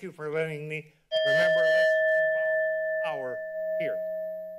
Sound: timer dings

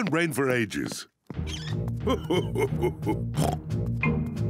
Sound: laughs; oinks

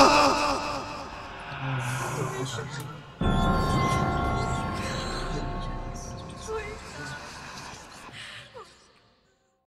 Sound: resonant whispers

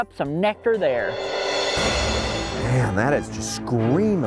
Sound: intense music; beeping

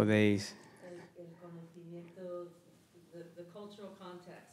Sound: speaking Spanish

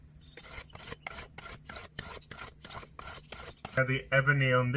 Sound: plane scraping

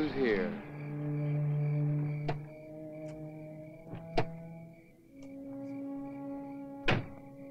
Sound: crickets softly chirping; ominous music

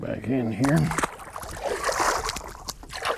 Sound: splash

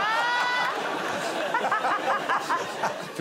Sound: laughter

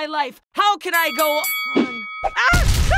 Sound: bell rings

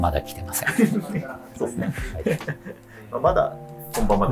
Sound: laughing

